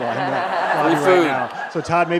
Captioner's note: audience applauds